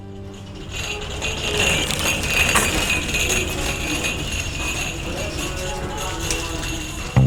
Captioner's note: buzzing sound